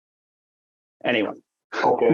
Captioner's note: laughs